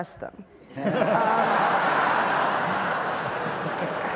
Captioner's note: audience laughs